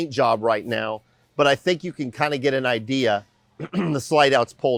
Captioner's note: clears throat